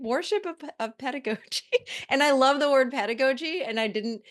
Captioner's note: chuckles